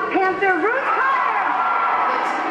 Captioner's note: cheers and applause